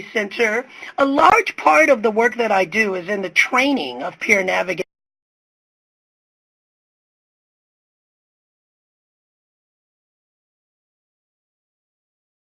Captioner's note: audio Cut Off